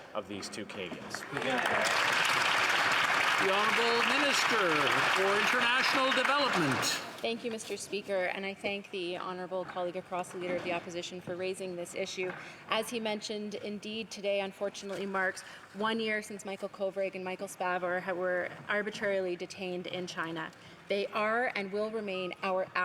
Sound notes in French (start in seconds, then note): 6.7 applaudissements; 12.0 voix de l'interprète